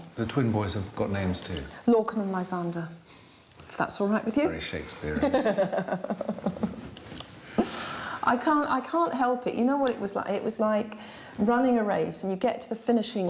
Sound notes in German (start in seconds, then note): 5.0 lacht